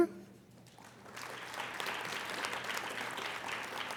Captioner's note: applauding